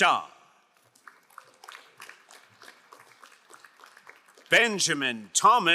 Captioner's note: crowd applauding